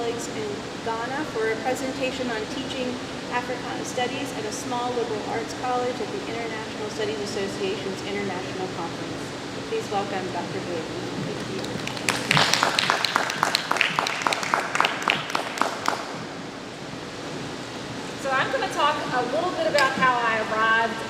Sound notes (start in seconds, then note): 11.3 audience clapping